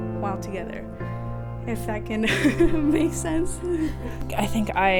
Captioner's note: laughs